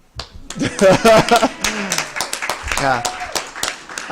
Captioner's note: applause